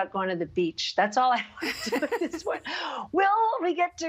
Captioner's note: laughing